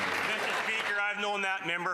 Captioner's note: some Applause